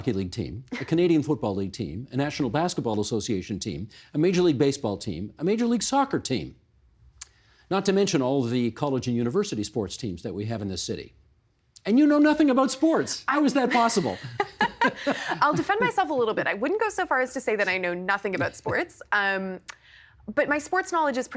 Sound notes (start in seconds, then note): 13.7 laughter